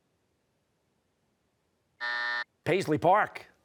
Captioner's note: buzzer